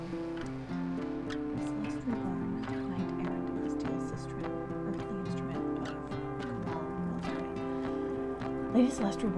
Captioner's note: muttered